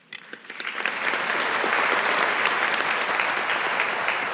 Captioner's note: audience applauding